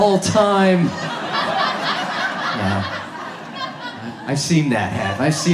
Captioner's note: audience laughs